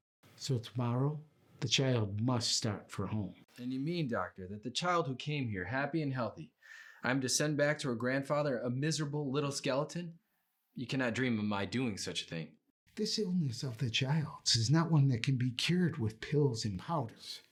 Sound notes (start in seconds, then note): none